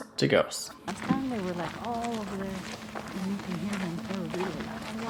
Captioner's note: women talking